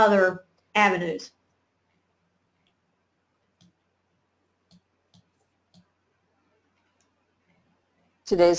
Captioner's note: silence